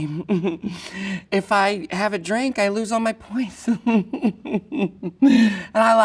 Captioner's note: laughs